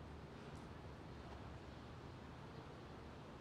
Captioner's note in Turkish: none